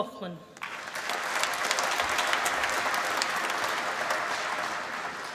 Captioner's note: applause